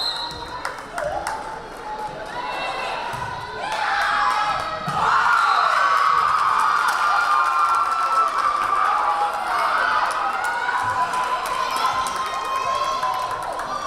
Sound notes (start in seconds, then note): 5.1 crowd cheering; 5.1 whistle blaring